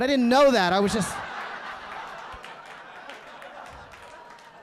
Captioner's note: audience laughing